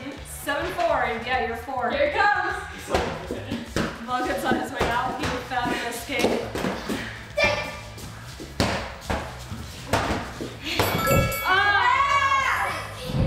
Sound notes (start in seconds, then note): 7.5 yells; 10.8 bell chimes